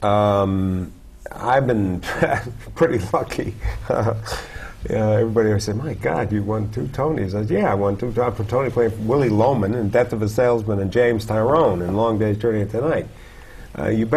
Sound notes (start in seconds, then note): 3.6 chuckle